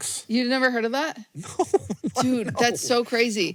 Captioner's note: laughs